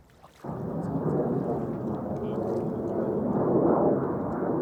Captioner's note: wind whooshes